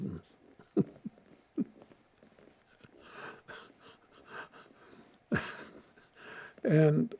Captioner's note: laughing